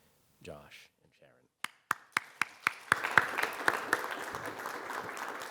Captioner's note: audience applauding